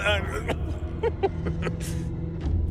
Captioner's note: laughing